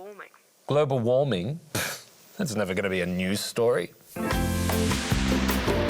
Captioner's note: scoffs